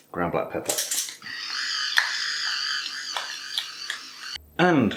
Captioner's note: whirr grind crunch